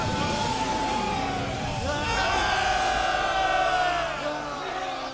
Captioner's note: triumphant cheering